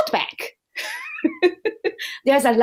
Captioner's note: laughter